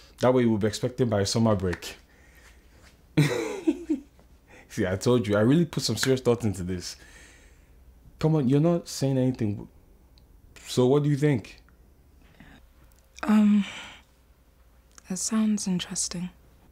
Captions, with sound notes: That way we'll be expecting by summer break (Happy laugh) See I told you I really put some serious thought into this Come on, you're not saying anything So what do you think? Um... It sounds interesting